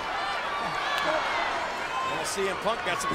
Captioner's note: crowd chattering